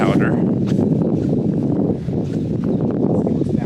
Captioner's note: air whooshing